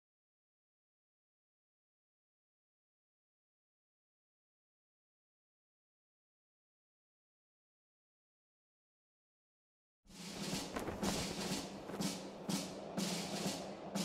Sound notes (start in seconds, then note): none